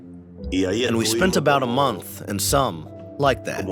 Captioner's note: through translator